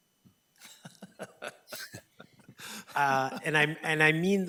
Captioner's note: laughing